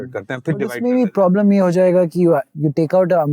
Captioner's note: speaking in Hindi